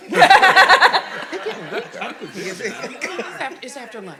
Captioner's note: audience laughing